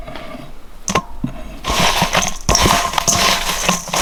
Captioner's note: bowl rattling